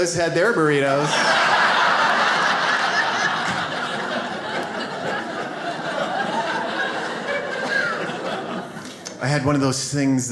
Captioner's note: audience laughs